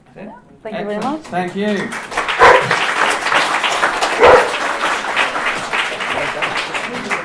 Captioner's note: applause and guide dogs barking